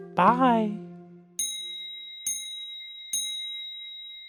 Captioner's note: dinging